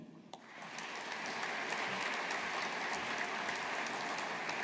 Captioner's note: audience applauding